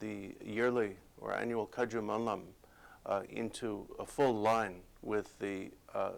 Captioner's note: non-english speech